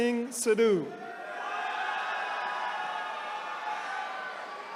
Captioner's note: attendees cheering